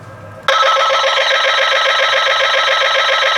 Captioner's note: machine noises